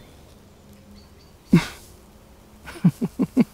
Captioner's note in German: Sie lacht